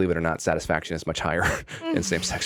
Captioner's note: chuckles